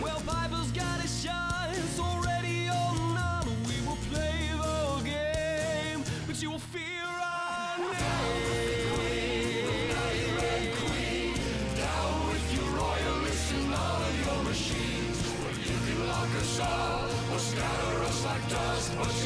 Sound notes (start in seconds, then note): 8.0 crowd